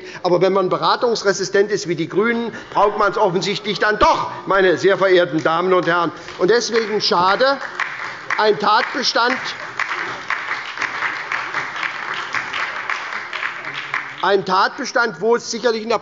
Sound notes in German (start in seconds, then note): 4.1 Beifall bei Abgeordneten der SPD und der LINKEN